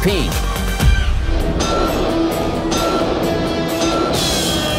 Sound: beeping; horn sounding

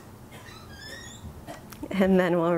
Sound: door squeaking

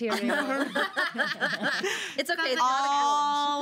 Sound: girls laughing

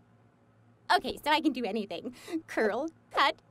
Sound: deep inhale

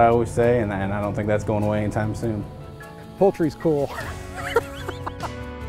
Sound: laugh

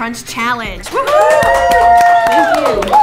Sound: cheering

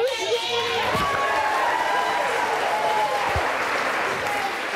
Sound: audience cheers

